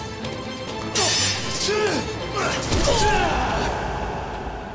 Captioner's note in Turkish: Kılıç sesi; Bağırma sesi